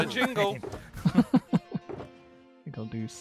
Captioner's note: all laughing